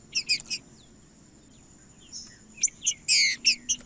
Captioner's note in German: trinca ferro cantando